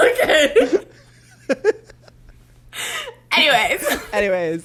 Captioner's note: both continue to laugh